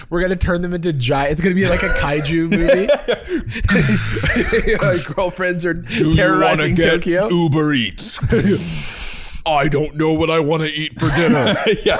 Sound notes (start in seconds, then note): 3.5 imitating footfalls of girlfriend-kaiju; 9.4 deep voice